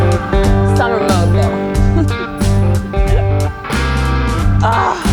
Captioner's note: chuckles